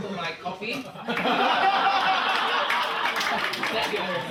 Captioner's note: audience laughing